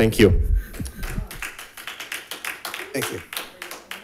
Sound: audience applauding

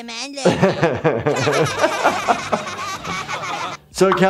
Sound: and kids laughing

